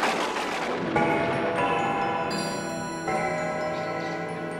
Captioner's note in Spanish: relojes sonando